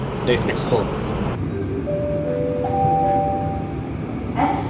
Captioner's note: announcement chime